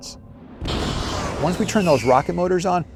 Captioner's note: engines blast